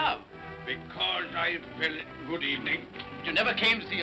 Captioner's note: mocking